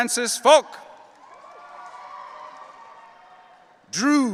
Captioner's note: audience cheering